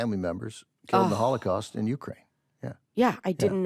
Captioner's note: sighs